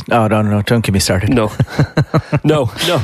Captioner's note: laughs